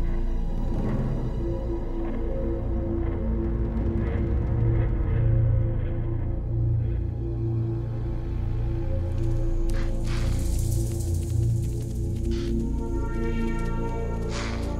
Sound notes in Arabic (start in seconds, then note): none